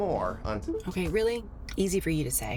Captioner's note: radio beeping